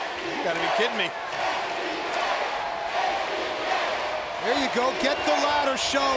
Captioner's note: applause